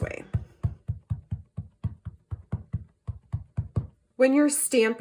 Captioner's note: ink pad thudding